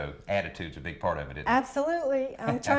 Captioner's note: laughing